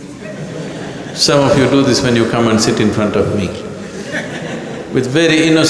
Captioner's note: laughter; laughter